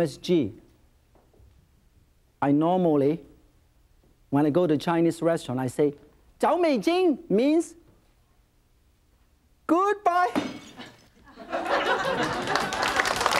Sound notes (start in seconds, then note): 6.1 in foreign language; 10.4 shattering; 11.2 audience laughing; 11.8 audience clapping